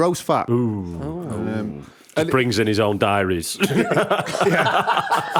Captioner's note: laughter